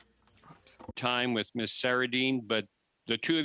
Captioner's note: speaking French